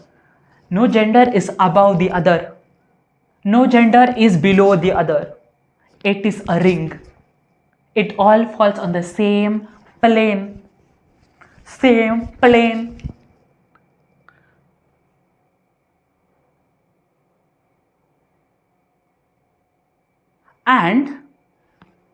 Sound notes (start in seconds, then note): 14.5 silence